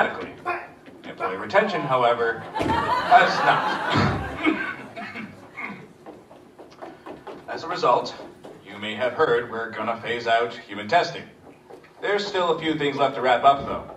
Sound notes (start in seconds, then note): 2.3 audience laughs; 3.7 coughing fit